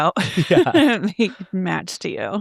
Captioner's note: laughing